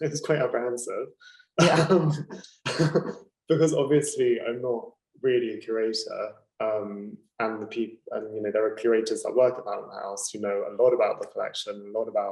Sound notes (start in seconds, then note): 0.9 laughing